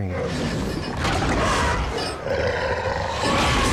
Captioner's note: roaring